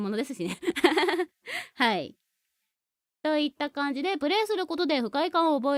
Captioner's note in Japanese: 笑い